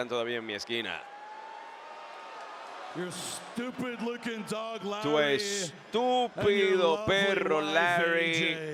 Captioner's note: applause